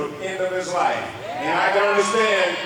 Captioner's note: audience members cheering